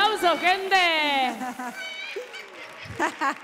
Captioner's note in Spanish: Aplausos